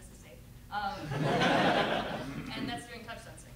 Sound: laughter

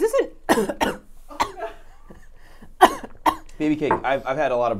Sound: coughing

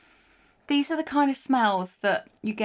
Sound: whispering; in normal voice

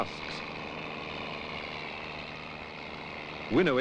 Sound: sound of machinery

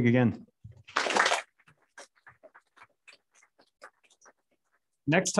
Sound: applause

